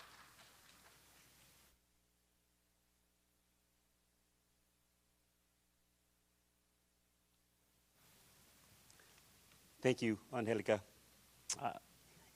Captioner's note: applause